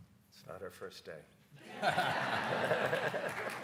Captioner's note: audience laughs; panelists laugh; audience applauds